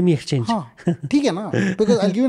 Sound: chuckles

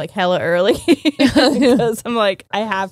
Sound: both laughing

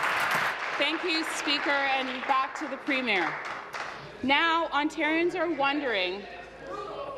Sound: applause

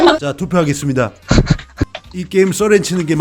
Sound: laughter

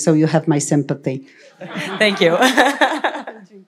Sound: laughter

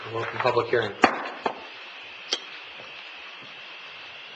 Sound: gavel

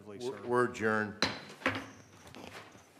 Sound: gavel bang

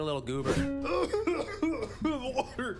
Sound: coughing

